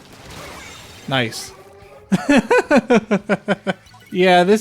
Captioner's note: laughter